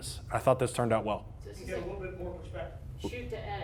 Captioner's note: video playing in background